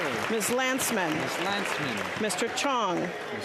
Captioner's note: applause